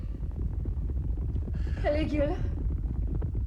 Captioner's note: hoofbeats